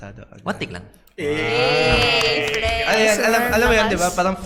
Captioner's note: applause